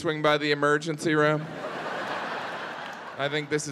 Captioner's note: audience laughing